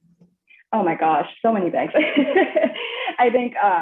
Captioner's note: laughs